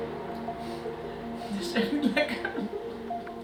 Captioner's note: laughs